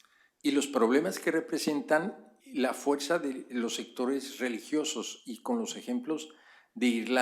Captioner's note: spanish; spanish